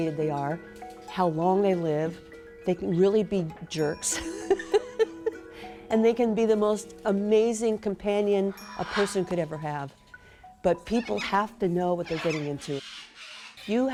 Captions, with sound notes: they are. How long they live. They can really be jerks (laughs) And they can be the most amazing companion a person could ever have. But people have to know what they're getting into. Birds are different.